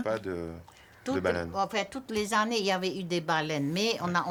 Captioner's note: speaking French